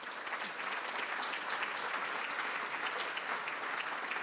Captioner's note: applause